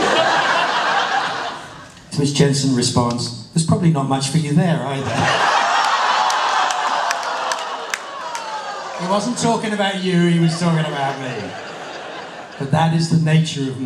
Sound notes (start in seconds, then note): 5.8 laughter and a few "awwws"